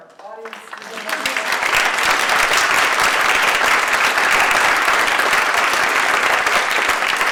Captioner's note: all applaud